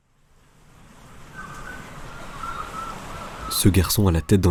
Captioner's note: sounds - Waves and Seagulls